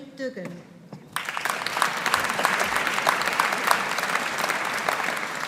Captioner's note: audience applauding